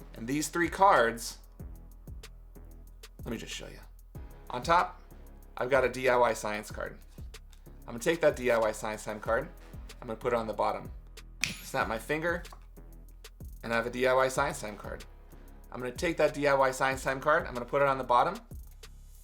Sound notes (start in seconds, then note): 11.4 snaps finger